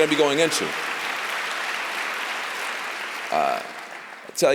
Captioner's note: applause